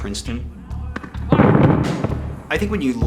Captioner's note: gunfire